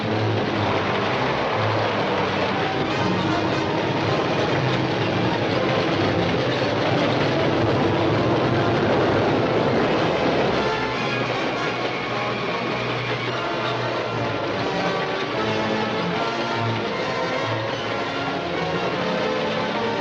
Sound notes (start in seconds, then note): 0.2 train clacking; 8.2 train rumbling